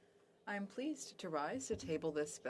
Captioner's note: speaking French